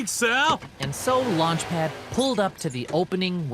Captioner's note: engine revs